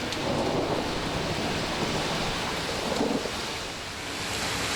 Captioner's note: thunder rumbles